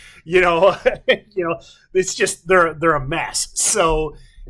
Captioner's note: chuckles